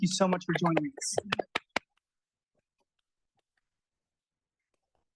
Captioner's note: applause